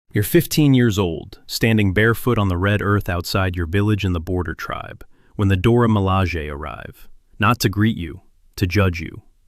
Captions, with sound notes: You're 15 years old, standing barefoot on the red earth outside your village in the Border Tribe, when the Dora Milaje arrive. [nervous] Not to greet you. To judge you.